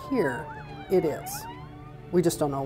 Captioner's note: sirens wail